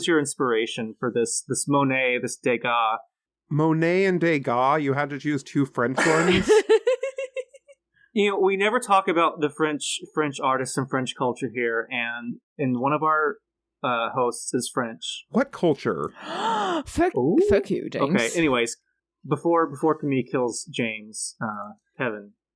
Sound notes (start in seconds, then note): 16.2 gasp